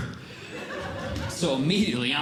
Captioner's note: audience Laughing